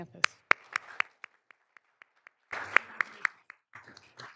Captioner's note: all applauding